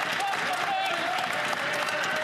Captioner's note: some Applause